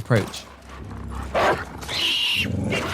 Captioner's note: barks; screams